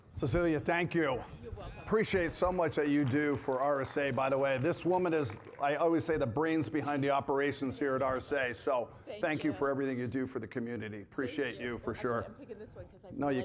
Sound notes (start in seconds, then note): 1.9 audience applauding